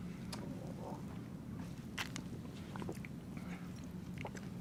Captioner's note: drinking